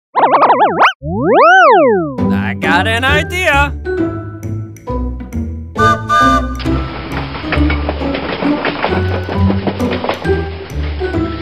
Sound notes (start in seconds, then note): 0.2 record scratches; 3.1 gentle music; 5.8 train whistle; 7.5 train chugs